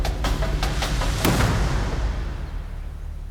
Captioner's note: gunshot